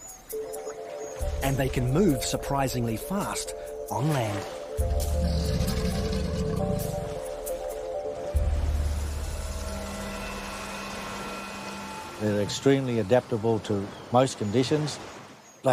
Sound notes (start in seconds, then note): 5.0 crocodile growling; 5.4 tense music continues